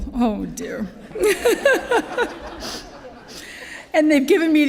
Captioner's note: laughter